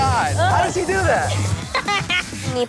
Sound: laughter

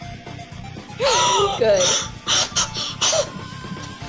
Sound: gasps

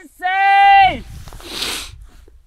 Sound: sniffling

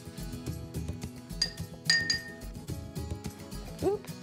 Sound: jar clinking

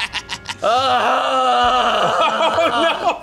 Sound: laughs; grunts; laughs

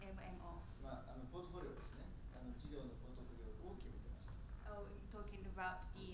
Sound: speaking in foreign language

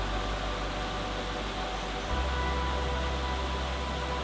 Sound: water rushing

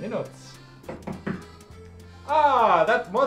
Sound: door knocks

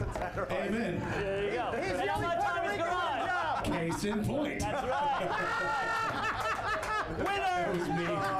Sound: laughter

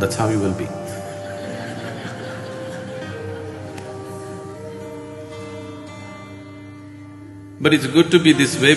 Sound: laughter

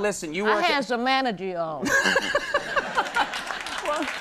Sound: Conan laughing; audience cheering and applauding

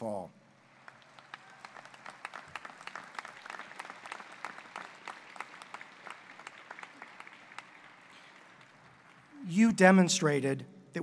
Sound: applause

